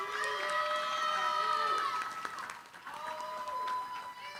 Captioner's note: cheering, applause